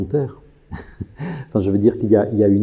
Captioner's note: laughter